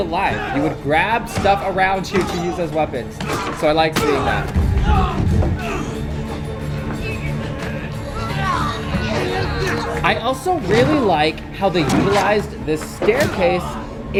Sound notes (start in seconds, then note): 5.4 mellow upbeat music; 6.7 fighters grunting